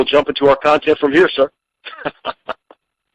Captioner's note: chuckling